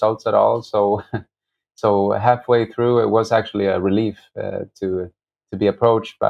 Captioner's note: laughter